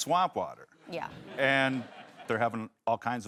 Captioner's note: audience laughs